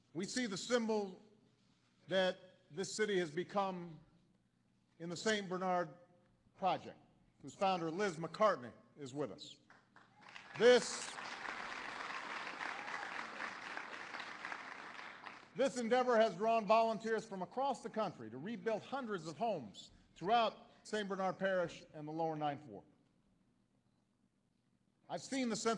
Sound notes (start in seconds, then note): 9.6 applause